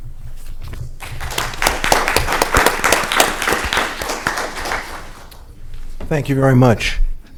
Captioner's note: applause